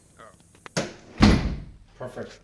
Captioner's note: door shuts clean